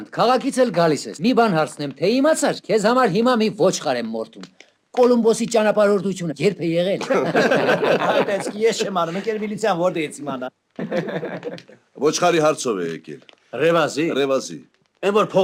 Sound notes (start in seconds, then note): 7.0 haha; 10.8 haha